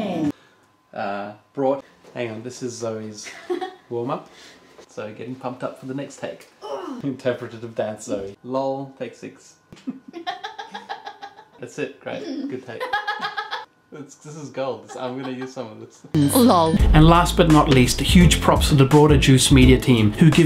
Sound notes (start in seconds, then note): 9.8 laughter; 12.8 more laughter